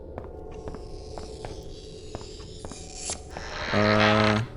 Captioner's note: scratching sound